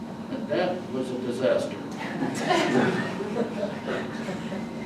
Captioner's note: audience laughs